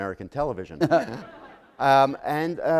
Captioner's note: laughter